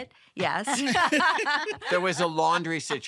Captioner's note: laughs